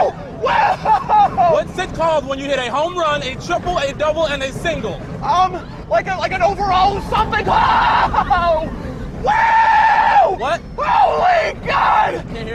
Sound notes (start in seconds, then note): 9.2 screaming